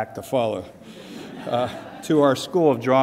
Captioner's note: audience laughs